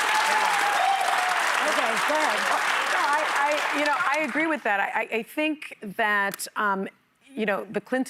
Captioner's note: applause